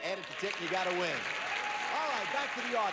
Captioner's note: audience applauding